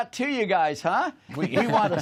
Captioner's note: laughter